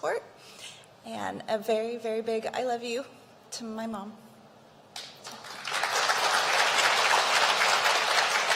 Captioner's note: applause